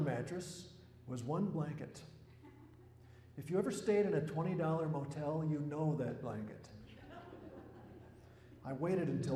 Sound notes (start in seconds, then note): 0.6 laughter